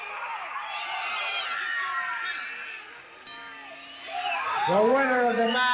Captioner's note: audience shouting; arena bell rings